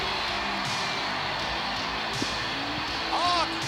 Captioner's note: crowd cheers